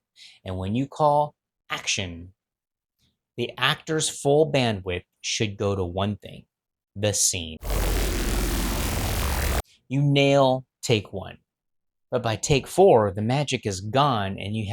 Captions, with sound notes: And when you call action, the actor's full bandwidth should go to one thing, the scene. (static) You nail take one, but by take four, the magic is gone and you